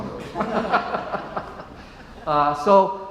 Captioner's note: laughs